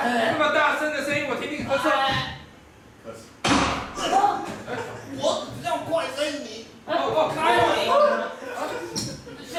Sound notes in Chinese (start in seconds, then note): 3.4 槍聲